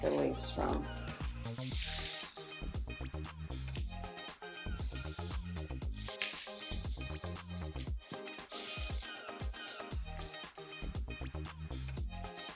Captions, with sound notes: the leaves from. (upbeat music) (leaves rustling)